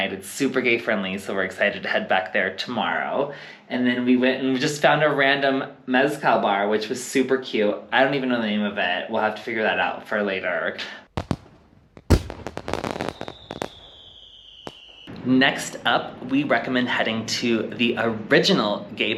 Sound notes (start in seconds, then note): 11.1 fireworks